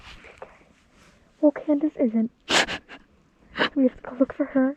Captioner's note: Mollie crying